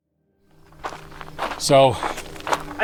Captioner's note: footsteps crunching